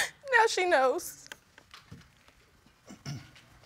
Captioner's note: sniffles